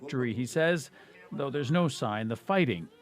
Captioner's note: speaking alternate language